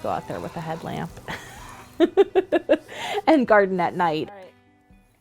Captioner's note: laughs